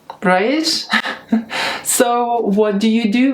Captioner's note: chuckling